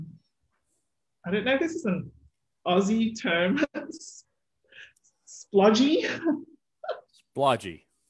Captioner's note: laughs